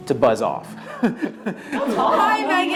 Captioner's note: laughing